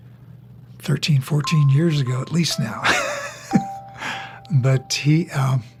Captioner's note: laughs